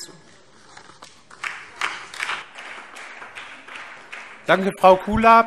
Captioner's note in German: Beifall DIE LINKE